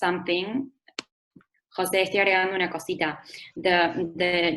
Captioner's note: Spanish